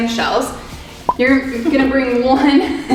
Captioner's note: quiet giggling